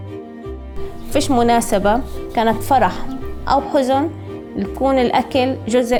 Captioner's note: speaking in foreign language